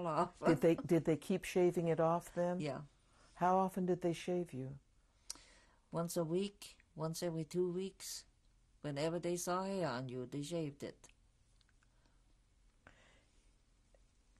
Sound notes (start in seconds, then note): 0.3 laughs